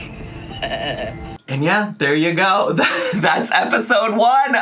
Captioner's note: laughs; laughing